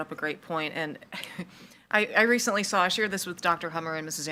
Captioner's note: misses laughs